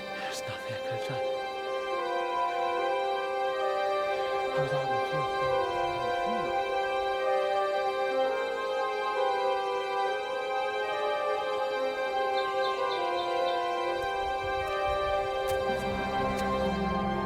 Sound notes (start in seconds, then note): 7.7 whispering